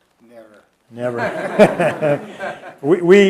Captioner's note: laughter